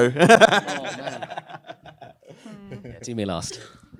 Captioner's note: laughter